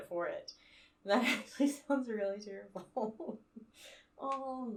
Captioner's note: laughing